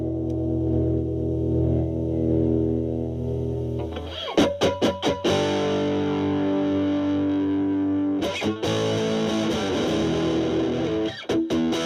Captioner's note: fuzzy distortion